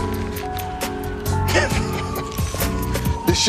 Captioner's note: laughing